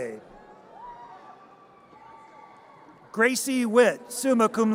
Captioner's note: audience cheers